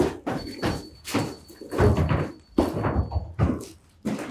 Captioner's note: meter beeping